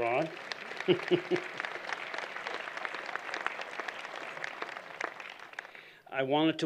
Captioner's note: applause